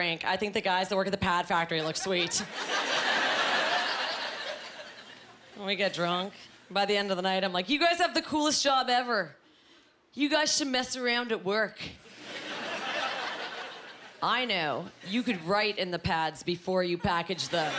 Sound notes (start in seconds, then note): 2.2 laughing